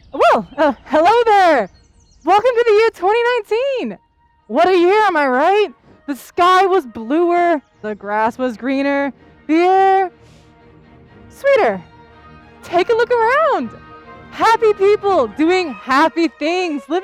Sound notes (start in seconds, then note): 4.0 light-hearted music; 10.2 sniffs